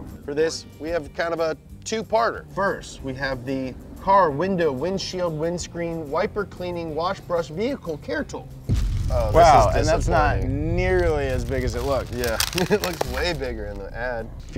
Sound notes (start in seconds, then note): 8.7 dramatic sound effect